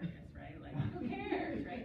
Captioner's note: laughter